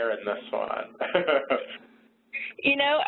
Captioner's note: laughs